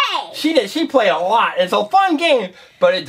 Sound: voiceover

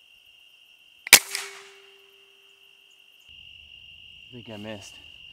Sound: air rifle shooting

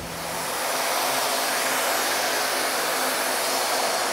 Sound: machine noise

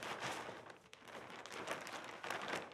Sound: none

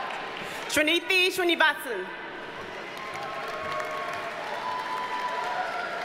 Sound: audience cheers and applauds

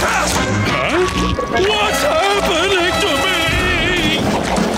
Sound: shouting

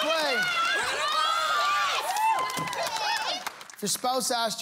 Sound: cheering

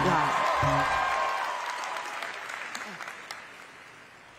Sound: cheering

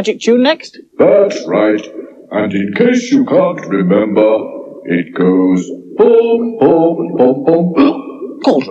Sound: cauldron Hiccups

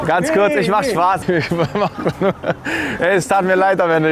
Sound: laughs

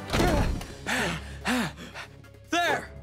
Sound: gasping

